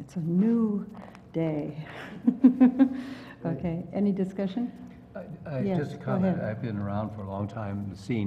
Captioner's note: laugh